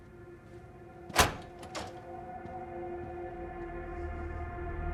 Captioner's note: door latch clicking; tense music